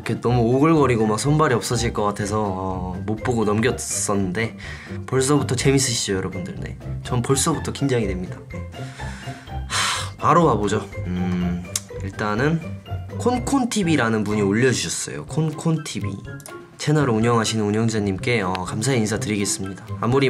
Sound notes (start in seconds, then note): 8.9 sighs